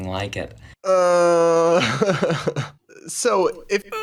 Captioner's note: hums; chuckles incredulously